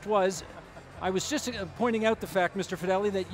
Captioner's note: chuckling